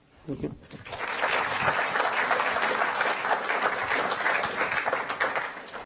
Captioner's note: applause